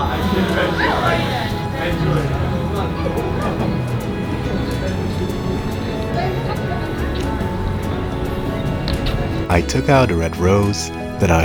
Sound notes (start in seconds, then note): 0.2 romantic music; 8.8 kissing sounds